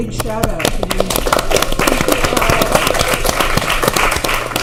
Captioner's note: clapping